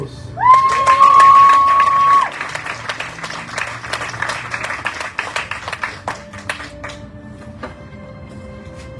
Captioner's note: audience cheering, applauding